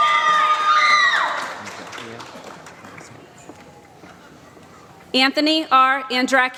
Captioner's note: applause